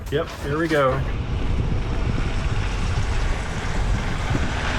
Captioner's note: engine humming